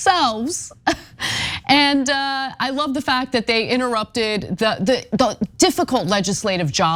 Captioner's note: laugh